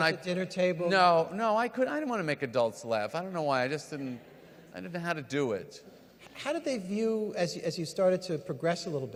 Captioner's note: none